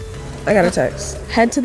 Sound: notification ringing

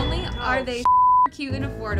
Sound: beep; intense music

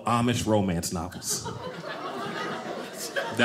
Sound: audience laughing

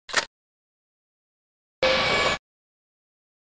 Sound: bip

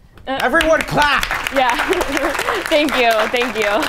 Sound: audience applause

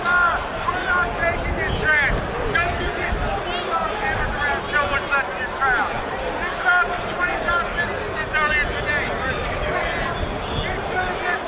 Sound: crowd noise

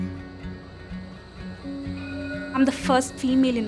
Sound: tram bell rings

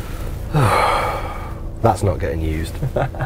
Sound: sigh

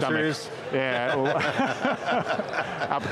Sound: laughing

